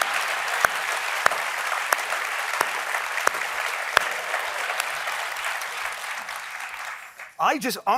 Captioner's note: applause